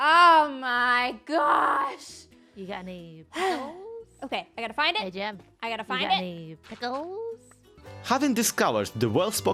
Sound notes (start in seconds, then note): 3.3 sighs